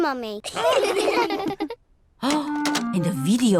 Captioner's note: all laugh